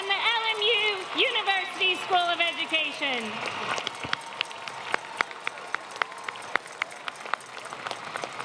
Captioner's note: applause